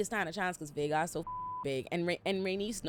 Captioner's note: beep